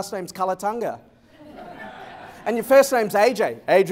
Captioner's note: laughter